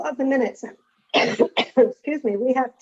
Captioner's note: coughs